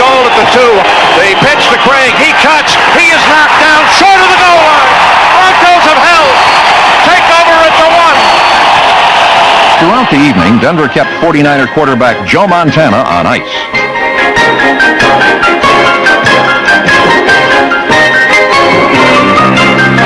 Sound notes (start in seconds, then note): 7.5 crowd cheering